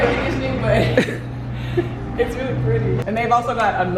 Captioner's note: laughs